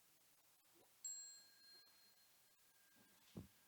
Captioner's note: bell chiming